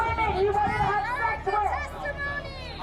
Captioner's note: muffled shouting